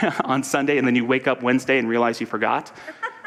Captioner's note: audience laughter; audience laughter